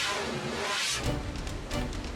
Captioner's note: dramatic air whoosh; suspenseful music